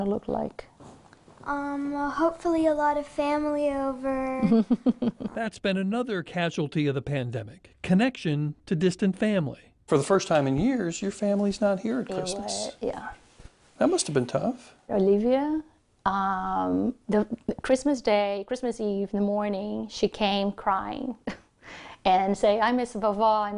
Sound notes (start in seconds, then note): 4.4 laughs